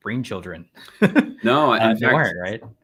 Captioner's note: chuckles